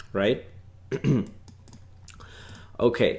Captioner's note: clears throat